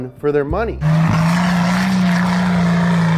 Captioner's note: engine roaring